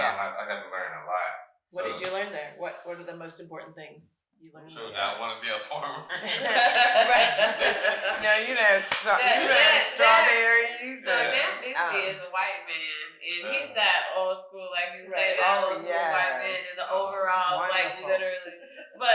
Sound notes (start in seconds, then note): 5.0 laughing; 5.4 all laughing; 10.6 hollers; 18.1 laughing